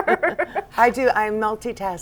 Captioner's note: laughter